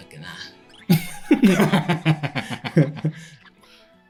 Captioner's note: laughs